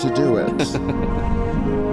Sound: laughter

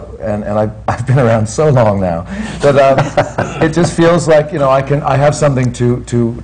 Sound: he laughs

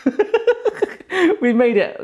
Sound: giggling

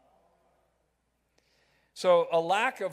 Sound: crowd

